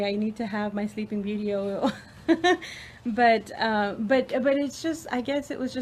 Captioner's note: laughs